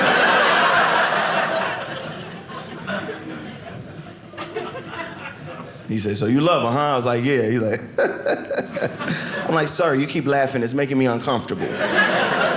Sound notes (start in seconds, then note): 0.0 audience laughing; 7.7 laughing